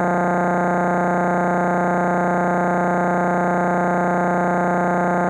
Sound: electronic buzzing continues

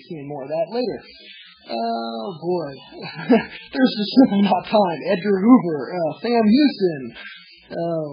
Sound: laughs

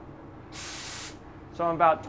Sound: compressed air releasing

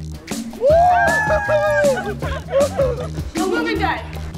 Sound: cheers

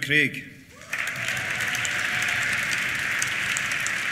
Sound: applause; cheers

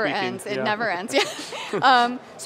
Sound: laughing

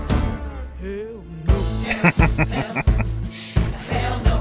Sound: laughing

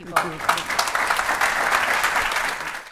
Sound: audience applauding

